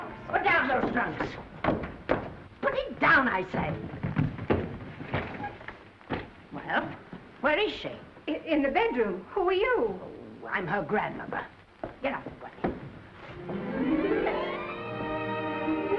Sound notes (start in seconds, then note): 4.1 trunks thudding; 13.2 gentle music